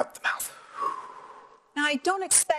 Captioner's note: breathing